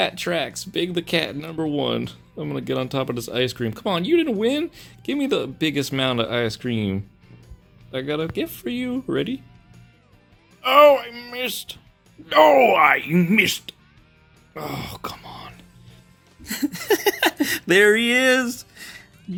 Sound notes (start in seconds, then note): 16.4 giggles